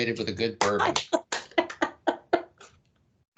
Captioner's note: clapping and laughing